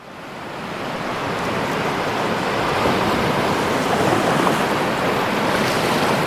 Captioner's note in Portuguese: Ondas do mar